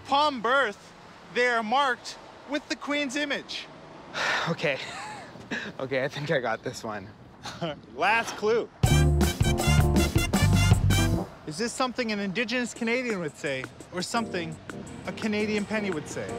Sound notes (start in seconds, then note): 4.1 exhales; 7.3 laughs